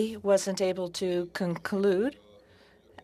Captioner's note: speaking French